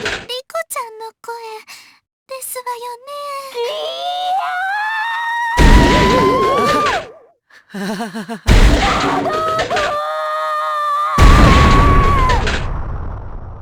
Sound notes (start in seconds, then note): 0.0 chaotic cries; 3.2 maniacal cry; 7.7 awkward laugh